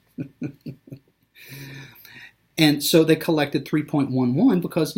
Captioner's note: laughing